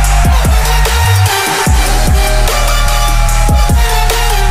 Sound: crowd cheering

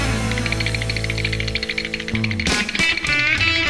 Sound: rattling

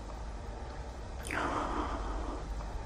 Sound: deep breathing

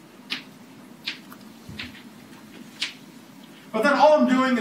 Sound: chalk writing on chalkboard

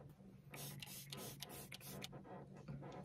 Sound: mist spray spray spray spray

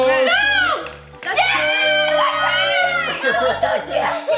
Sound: screaming

